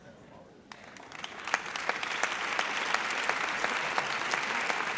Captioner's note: audience applauds